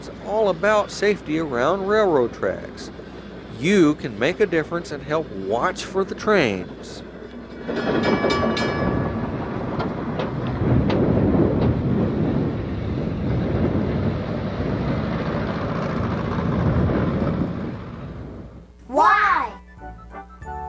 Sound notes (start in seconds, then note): 7.6 crossing bells dinging; 19.4 bouncy music